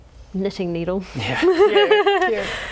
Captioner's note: laughing